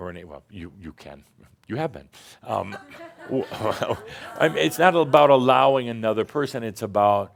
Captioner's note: some chuckles